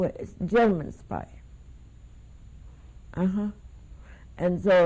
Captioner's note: pauses for 3 seconds